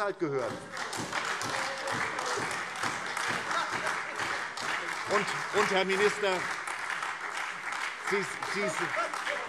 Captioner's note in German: Beifall SPD, AfD und Freie Demokraten